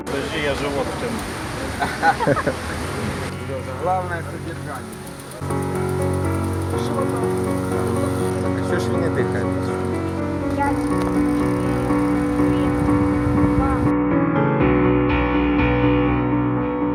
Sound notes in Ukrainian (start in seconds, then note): 1.7 сміх